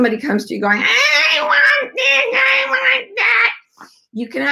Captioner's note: cries